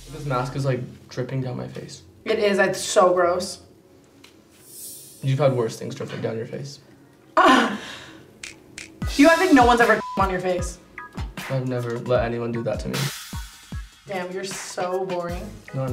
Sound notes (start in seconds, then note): 7.5 laughing; 9.8 beep